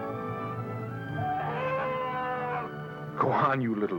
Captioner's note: growls